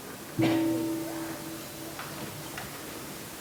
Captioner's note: gong